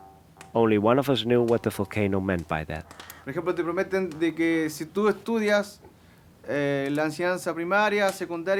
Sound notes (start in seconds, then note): 3.3 speaking in foreign language